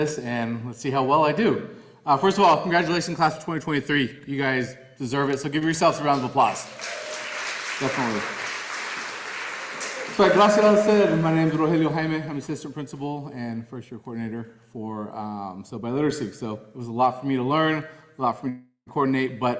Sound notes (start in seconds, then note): 6.4 audience applauding